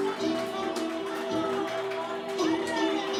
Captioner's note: cheers, applause, music continues